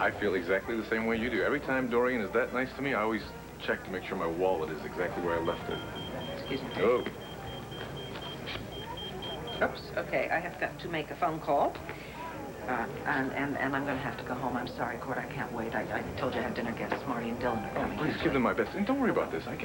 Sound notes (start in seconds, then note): 8.2 pager beeps